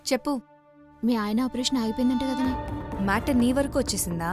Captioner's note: none